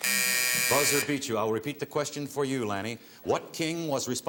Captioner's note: buzzer